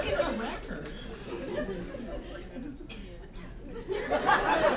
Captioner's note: laughter